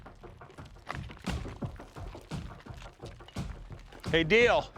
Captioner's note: rocks tumbling